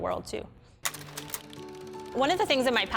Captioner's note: slide reel clicks